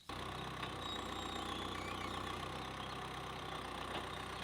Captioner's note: tractor rumbling